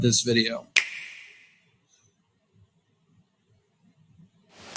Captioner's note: snap